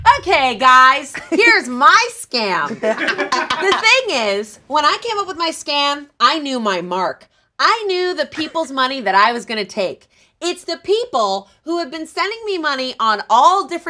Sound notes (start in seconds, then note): 2.6 laughs